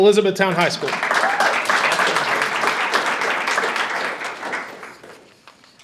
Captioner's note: audience cheers and applauds